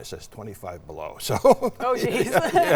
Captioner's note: laughs